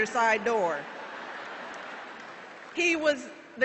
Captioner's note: laughter